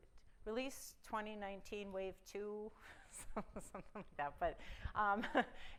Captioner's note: chuckle